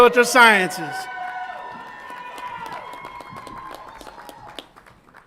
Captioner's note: audience applauds and cheers